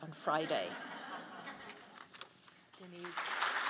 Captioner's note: audience laughs